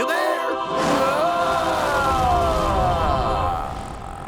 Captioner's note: screams